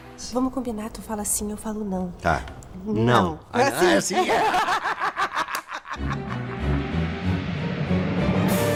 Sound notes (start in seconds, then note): 3.6 laughs; 6.0 intense instrumental music